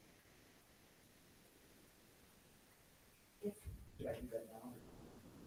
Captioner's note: attendees chattering